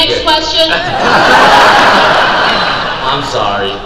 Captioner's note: crowd laugh